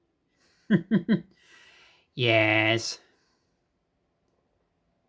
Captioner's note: chuckles